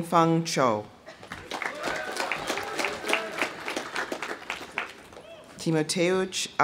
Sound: audience applauding; audience cheering

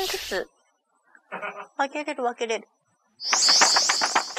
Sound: laughs

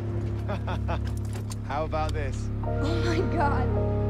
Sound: laughing

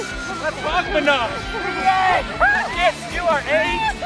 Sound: people shouting

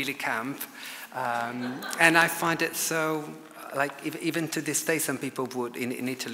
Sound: audience laughs

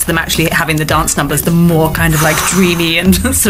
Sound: exhaling

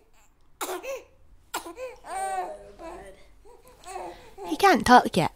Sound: baby crying

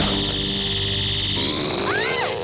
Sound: zapping

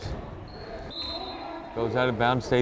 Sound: whistle blows

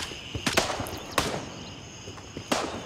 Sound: gunfire; gunfire

